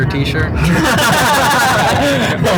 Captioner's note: laughing